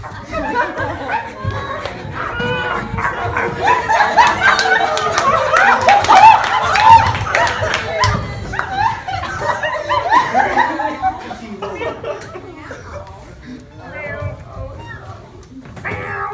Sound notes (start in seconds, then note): 11.3 meowing